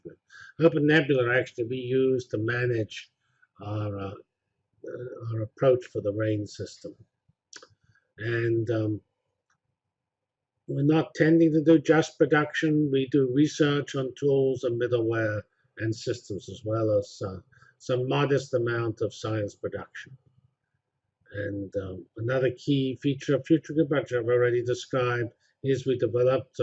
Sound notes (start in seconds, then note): 7.1 pause